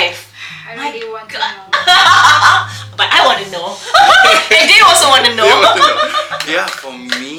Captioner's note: laugh